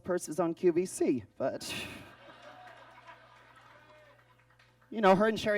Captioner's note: audience laughs